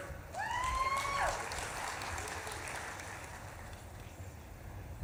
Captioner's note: audience claps and cheers